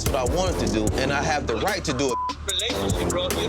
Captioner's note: beep